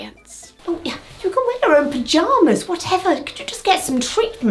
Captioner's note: scoffs